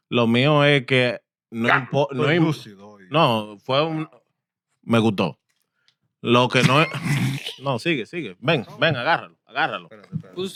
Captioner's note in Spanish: Hablando en idioma extranjero